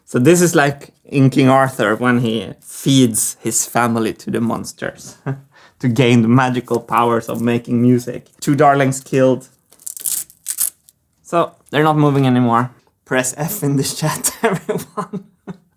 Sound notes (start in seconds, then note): 5.1 chuckles; 9.6 velcro ripping; 14.2 laughs